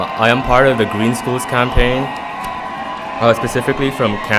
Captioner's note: loud cheering